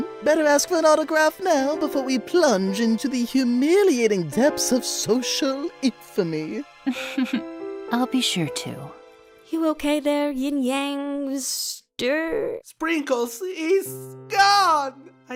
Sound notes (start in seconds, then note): 6.8 chuckles